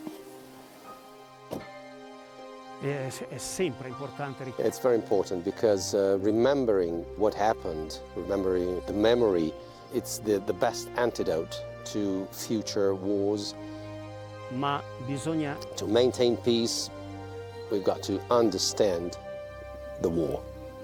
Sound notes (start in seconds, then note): 0.2 light instrumental music; 3.2 speaking French; 4.7 voiceover